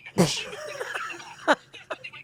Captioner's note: laughs